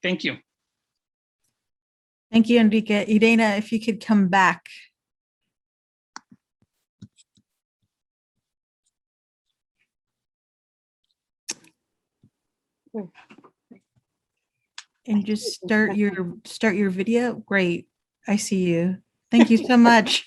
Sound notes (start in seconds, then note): 14.2 pause